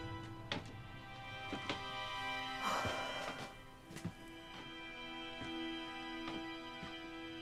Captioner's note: Crystal sighs; boards creaking